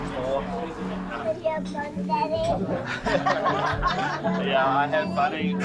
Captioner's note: laughter